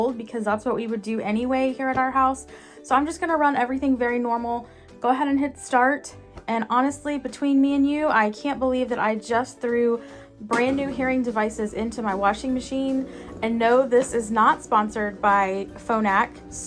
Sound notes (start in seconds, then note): 12.8 machine whirring